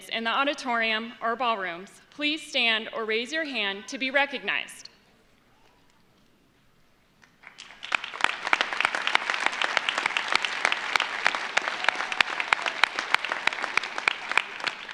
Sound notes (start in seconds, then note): 7.3 audience applauds